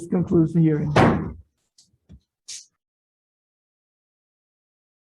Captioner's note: gavel pounds